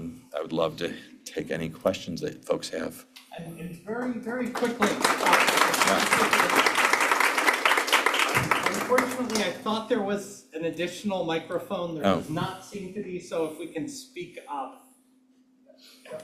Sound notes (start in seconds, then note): 4.4 applause